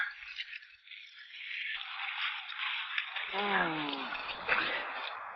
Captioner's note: man groans